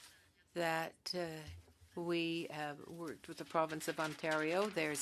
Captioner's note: speaking French